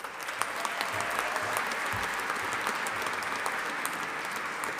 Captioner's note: audience applauding